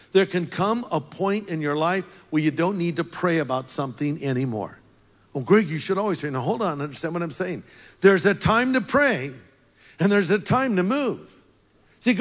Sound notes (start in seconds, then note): none